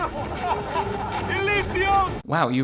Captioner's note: guard yelling